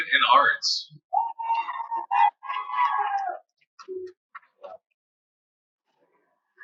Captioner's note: cheering; cheers and Applause